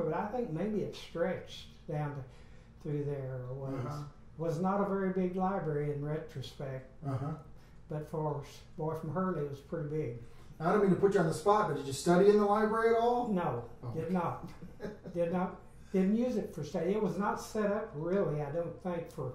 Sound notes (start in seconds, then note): 14.3 laughs